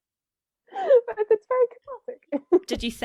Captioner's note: laughs